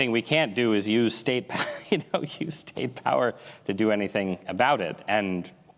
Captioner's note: laughs